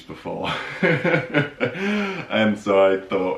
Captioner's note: laughing